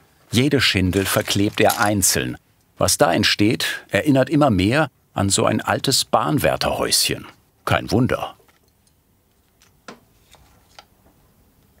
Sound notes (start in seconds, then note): none